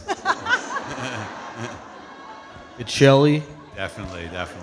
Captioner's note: all laughing